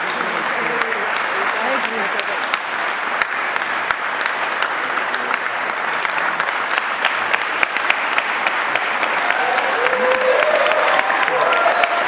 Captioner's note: applause